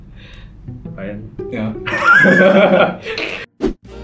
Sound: laughs

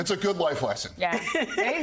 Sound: laughter

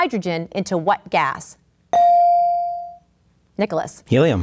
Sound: ding

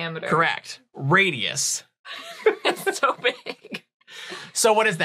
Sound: laughing

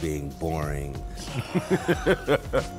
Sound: laughing; slow upbeat music

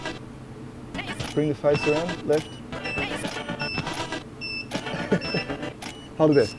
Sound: upbeat music; camera shutter clicks

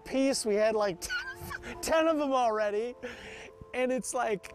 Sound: laughing

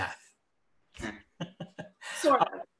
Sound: laughs

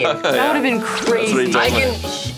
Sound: laughing

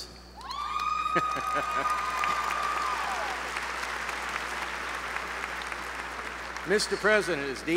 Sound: applause

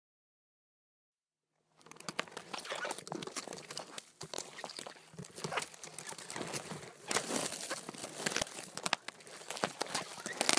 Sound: sound of crunching and scraping

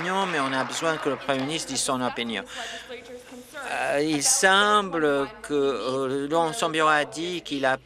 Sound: applause

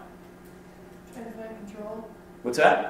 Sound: voiceover

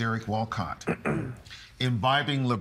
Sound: clearing throat

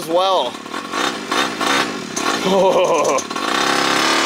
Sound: engine roars

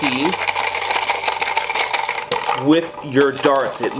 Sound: rattling

